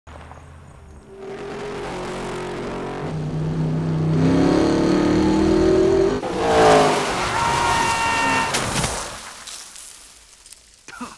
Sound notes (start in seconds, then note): 0.6 engine revving; 7.1 Lightning screaming; 10.9 Lightning coughing and spitting